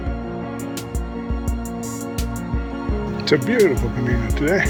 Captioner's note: birds